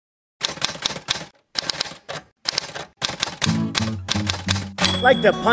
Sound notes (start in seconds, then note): 0.3 typing sounds; 3.4 light-hearted guitar music